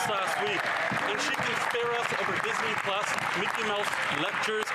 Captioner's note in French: voix de l'interprète